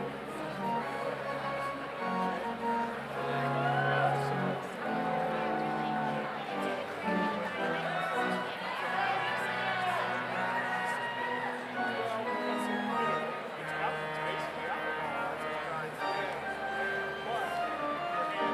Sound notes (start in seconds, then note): 8.8 audience cheers; 9.1 overlapping chattering